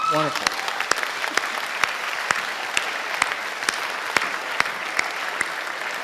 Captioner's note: audience applauding and cheering